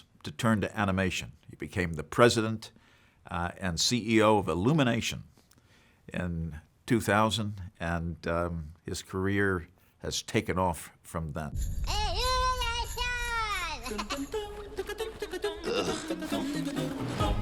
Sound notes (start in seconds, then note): 11.8 Minion shouts; 13.8 upbeat humming